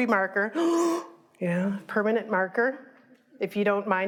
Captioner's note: gasps